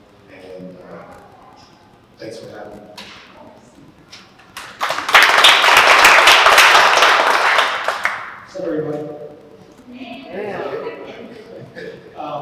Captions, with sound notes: And thanks for having me. [Applause] Sup Everybody.